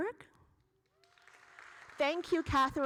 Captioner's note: audience applauding